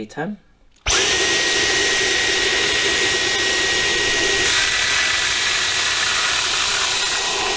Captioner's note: sucking noise